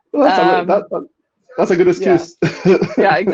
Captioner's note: laughing